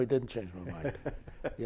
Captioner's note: chuckles